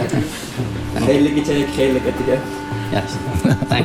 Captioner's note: man speaking foreign language, chuckling